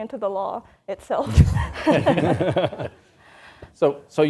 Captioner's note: all laughs